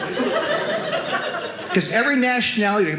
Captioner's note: audience laughing